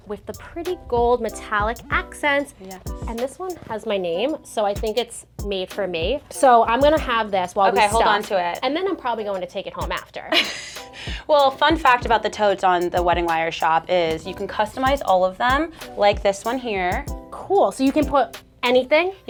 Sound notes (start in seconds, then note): 10.4 chuckles